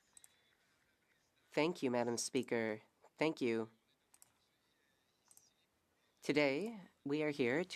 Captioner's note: speaking French